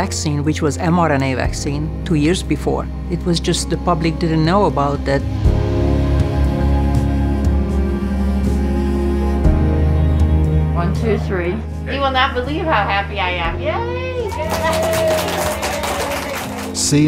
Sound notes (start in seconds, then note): 14.2 applause